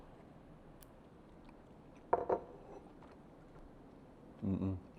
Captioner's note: munch munch